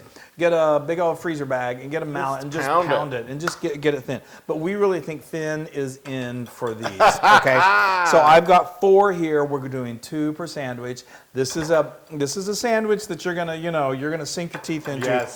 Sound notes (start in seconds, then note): 6.8 laugh